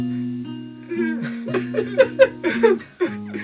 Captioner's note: confusion sounds; whimper; goblin laughing